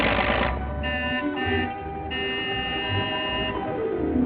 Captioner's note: honking